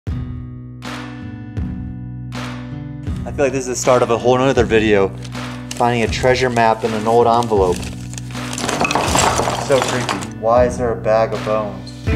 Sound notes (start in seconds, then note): 0.0 gentle music; 8.6 dry bones rattling